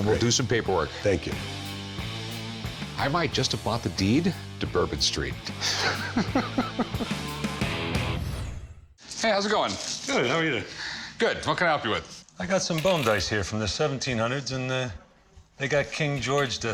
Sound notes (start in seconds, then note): 5.5 laughs